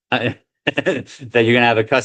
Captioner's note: laughs